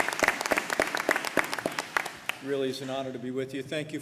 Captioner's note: applause